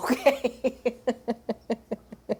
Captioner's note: laughs